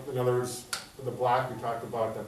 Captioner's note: hands clap